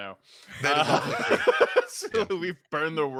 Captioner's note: laughs